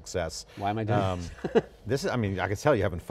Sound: laughing

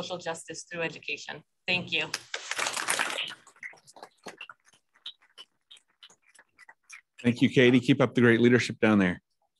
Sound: applause

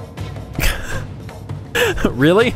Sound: laughs

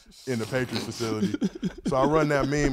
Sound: gentlemen laughs

